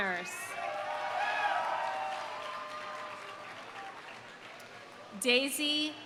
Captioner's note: audience cheering; audience applauding